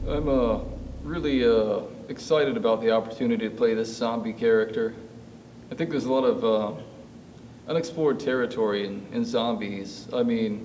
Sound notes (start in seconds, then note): none